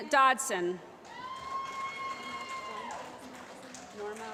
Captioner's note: applause